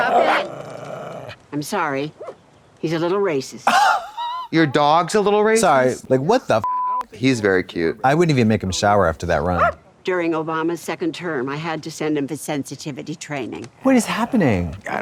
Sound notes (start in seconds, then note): 3.9 Katya wheezes